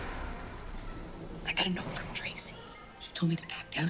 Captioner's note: whispering